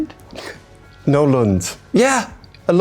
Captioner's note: laughs